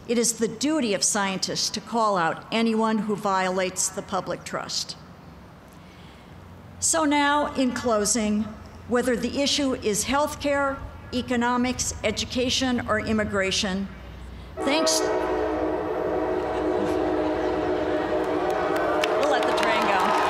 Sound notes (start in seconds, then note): 14.9 train sounds; 18.2 applause